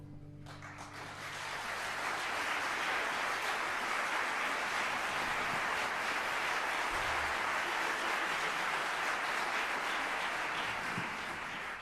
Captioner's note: applause